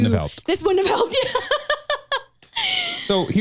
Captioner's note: chuckles